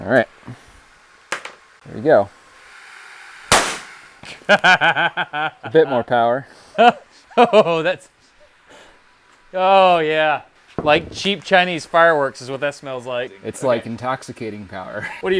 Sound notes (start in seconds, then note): 3.4 bat fires; 4.2 laughs